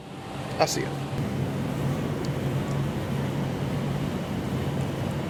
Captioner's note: bees buzzing